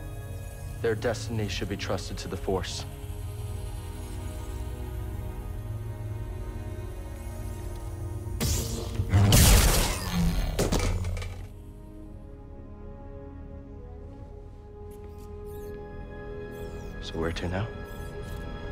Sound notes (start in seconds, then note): 10.5 clatter